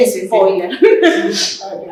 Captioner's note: Risas